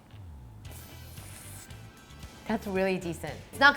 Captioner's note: slurps cheese